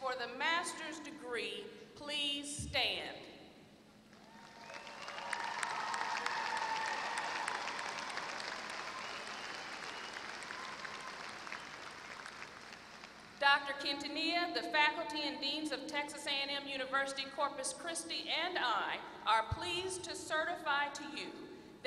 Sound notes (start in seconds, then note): 4.1 applause